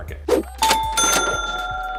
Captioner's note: bell dinging; crowd cheering and applauding